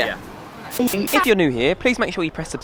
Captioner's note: static